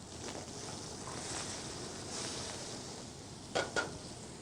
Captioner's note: sizzling